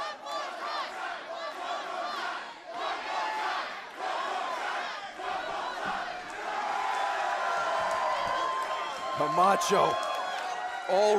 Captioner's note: crowd cheering